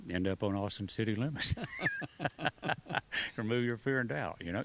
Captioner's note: laughs